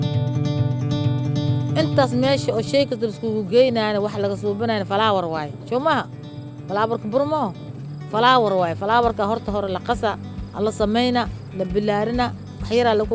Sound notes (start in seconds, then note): 1.7 non-english speech